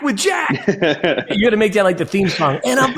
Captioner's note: laughs